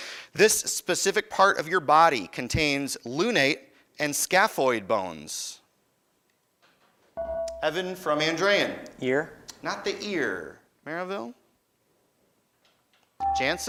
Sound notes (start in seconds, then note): 7.2 beeping